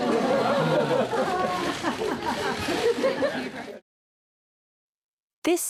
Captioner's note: audience laughing